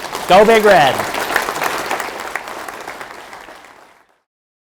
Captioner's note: applause